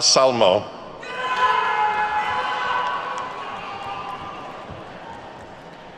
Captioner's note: attendees whooping